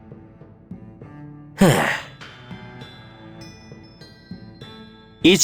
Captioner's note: sigh